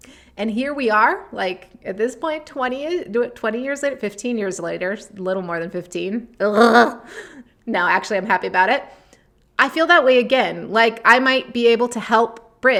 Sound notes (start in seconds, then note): 6.5 gags